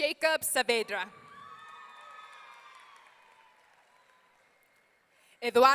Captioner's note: audience cheering